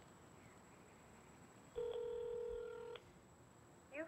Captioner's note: telephone rings